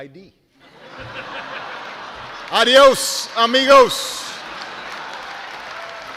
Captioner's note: laughter; laughter, applause